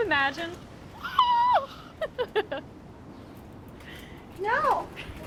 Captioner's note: Fern laughs